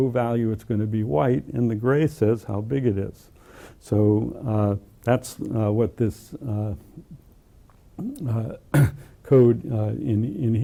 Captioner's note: cough